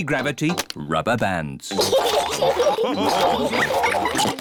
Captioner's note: all laugh